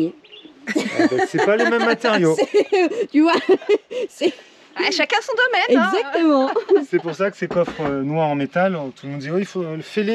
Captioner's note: laughs